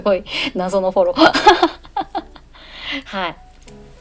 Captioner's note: laughs